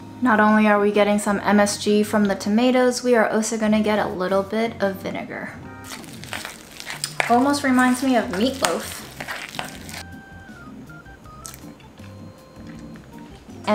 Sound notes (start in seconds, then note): 5.8 food mixture squishing; 9.2 jazzy instrumental music